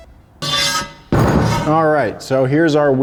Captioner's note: wheel banging